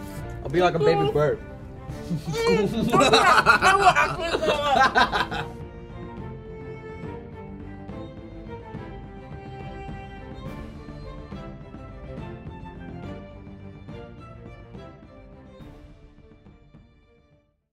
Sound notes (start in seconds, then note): 4.7 laughs